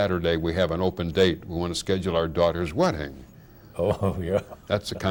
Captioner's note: laughing